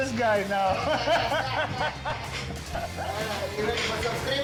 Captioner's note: laughing